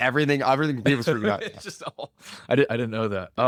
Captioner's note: laughs